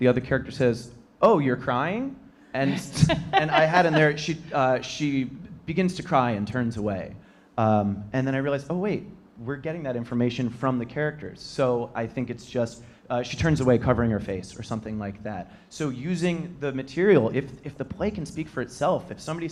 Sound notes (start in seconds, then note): 2.6 laughing